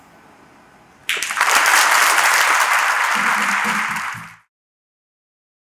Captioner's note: applause